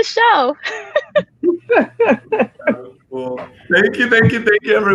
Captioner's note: laughs brightly